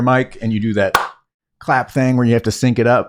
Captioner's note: claps